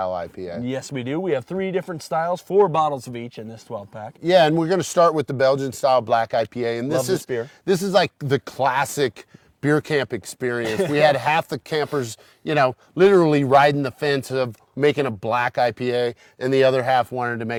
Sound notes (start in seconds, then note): 10.6 laughs